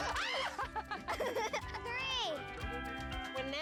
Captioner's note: laughter